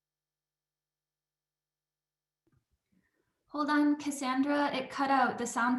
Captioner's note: audio cut out